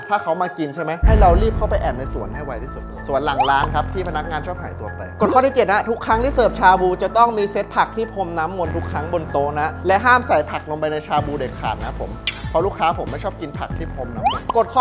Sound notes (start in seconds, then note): none